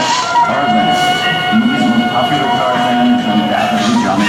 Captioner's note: voice of Tarzan screaming